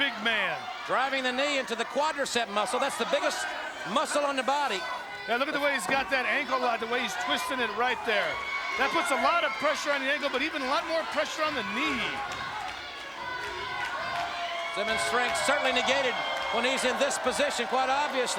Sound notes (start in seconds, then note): 12.0 crowd jeers and cheers